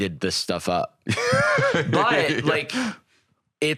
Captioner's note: laughs